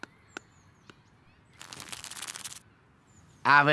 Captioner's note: hissing sounds